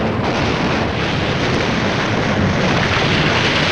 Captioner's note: guns blasting